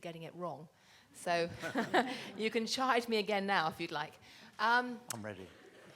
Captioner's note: laughing